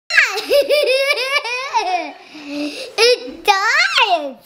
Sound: laughing

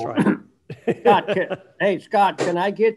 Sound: laughing

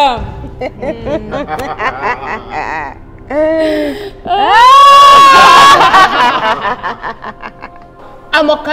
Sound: Delvish laughing

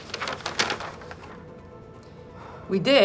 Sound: paper rustles

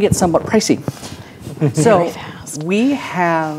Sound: quietly; chuckles

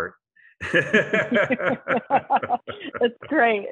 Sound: laughter

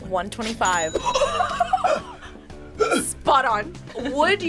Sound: both laugh

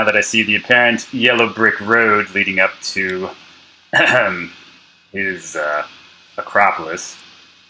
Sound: throat clear

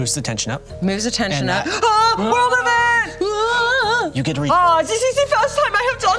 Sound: shouts; imitates German accent

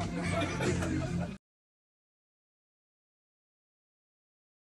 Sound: people laughing

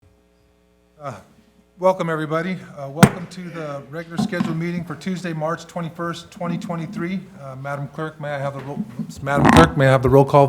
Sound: gavel

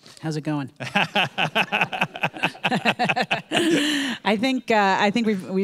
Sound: both laughing

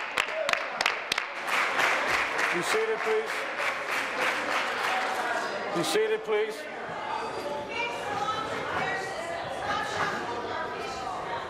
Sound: applause

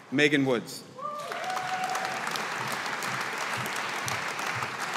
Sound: audience applauding

